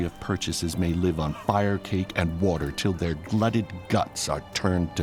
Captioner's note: footsteps, indistinct conversation